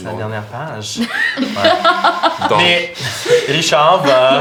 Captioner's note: laughter